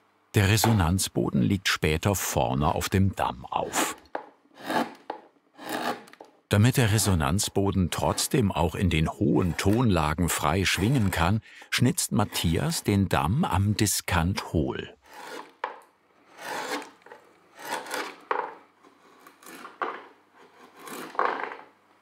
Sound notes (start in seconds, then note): 16.4 scratching noises